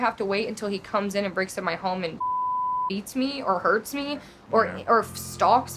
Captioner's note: beep